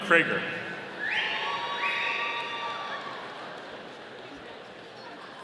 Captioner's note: audience cheering